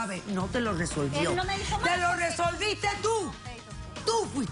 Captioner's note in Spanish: Hablan al unísono